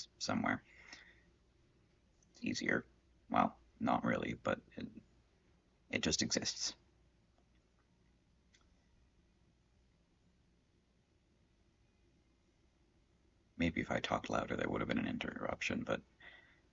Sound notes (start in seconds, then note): 7.0 silence